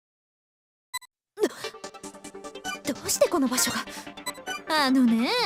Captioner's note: gasp